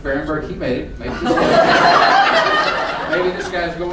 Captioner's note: laughing